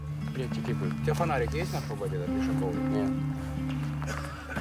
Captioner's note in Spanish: Audio hablado en ucraniano